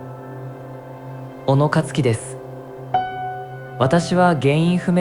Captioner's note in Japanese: 合成音声